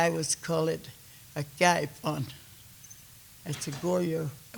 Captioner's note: speaking Kiowa